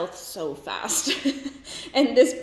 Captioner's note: laughs